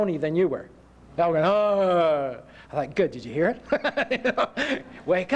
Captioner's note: laughter